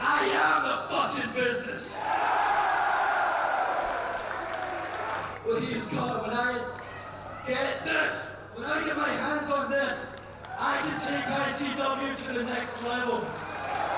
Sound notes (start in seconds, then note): 1.9 crowd cheering; 2.3 crowd applauding